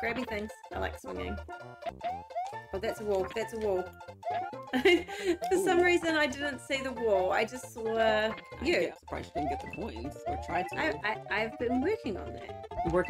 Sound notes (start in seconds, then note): 4.7 laughs